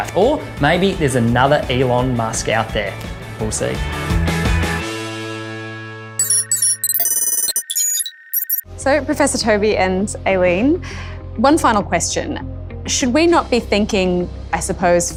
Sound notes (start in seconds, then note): 3.9 upbeat music; 6.2 electronic beeping